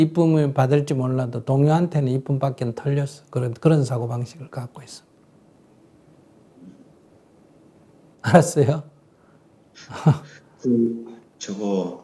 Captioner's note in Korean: 웃음